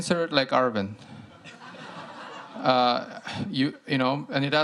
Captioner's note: laughter